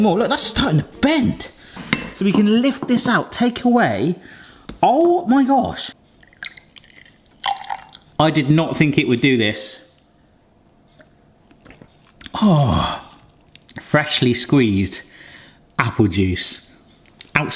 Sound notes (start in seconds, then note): 6.1 juice trickling; 11.9 gulps